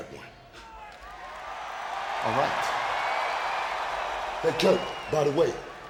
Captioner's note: audience cheering